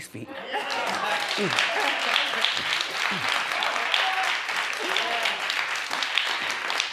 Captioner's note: audience applauds